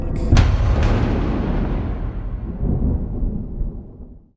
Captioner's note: thunder